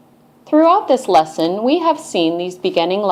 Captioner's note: voiceover